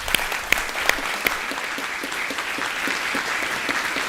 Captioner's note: audience applause